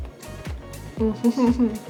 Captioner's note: giggles